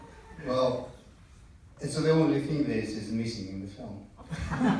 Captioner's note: laughter in the audience